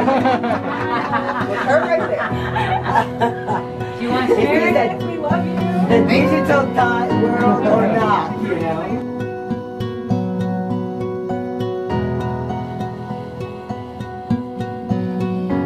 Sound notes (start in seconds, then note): 0.0 chuckling; 6.5 chattering; 9.6 soft music